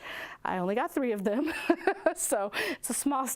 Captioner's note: laughs